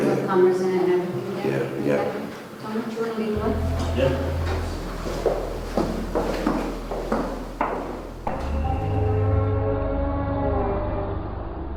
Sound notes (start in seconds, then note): 5.0 footsteps; 8.7 dramatic music